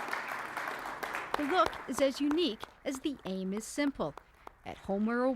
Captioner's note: applause